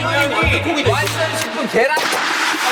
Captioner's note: applause Applause